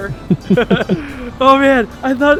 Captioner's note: laughing